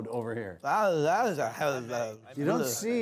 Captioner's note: mumbles